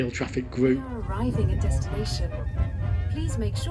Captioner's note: automated train announcemnet